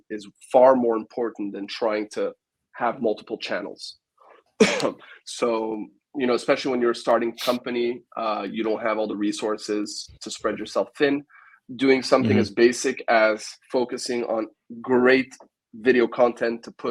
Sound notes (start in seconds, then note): 4.6 coughs